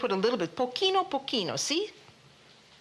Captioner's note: speaking Italian